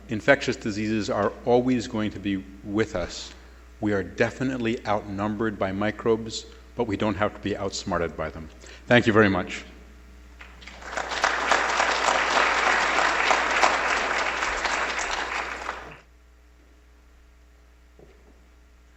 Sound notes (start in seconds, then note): 12.1 applause